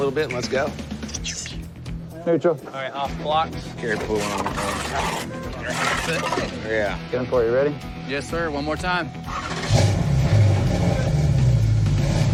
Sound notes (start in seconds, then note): 9.2 engine starts; 12.1 engine revving